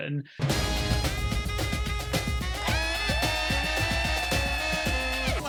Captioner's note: cheering